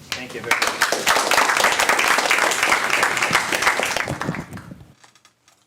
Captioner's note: applause